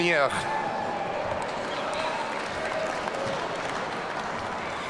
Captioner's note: audience cheering